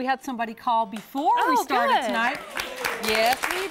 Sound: �applause�

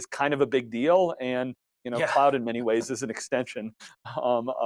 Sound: chuckles

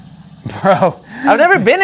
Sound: laughs

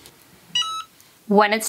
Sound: hat press beeps

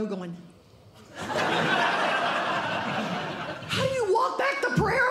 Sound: audience Laughing

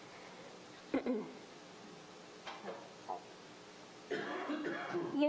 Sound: clears throat

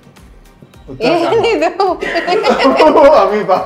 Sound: sarcastically; laughing

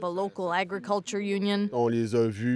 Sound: speaking French

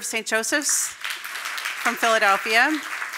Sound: audience applauding

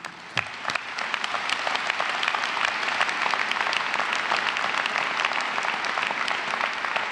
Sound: applause

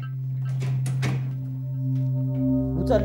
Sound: door opens and closes

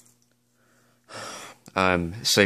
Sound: wristwatch rattles; sighs

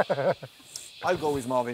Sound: laughs

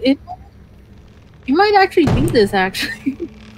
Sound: laughs

